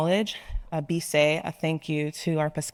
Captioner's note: speaking in foreign language